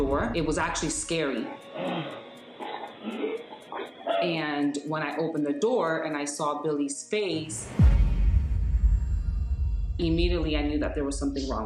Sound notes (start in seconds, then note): 1.5 gasping, wheezing; 7.4 tense music playing